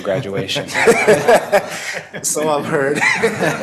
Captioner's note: laughter